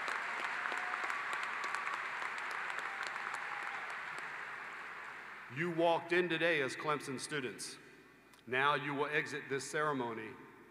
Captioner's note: applause